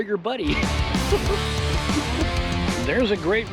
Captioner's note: laughing